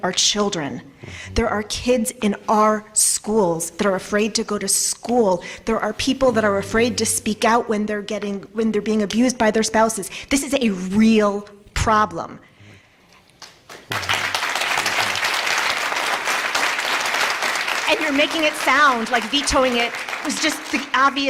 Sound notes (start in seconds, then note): 13.4 applause